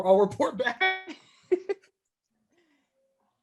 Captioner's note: laughing